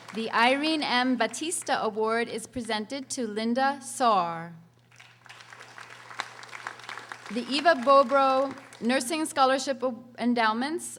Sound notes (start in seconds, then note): 4.9 audience applauding